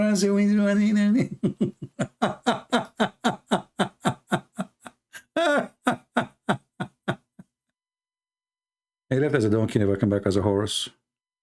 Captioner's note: Ketawa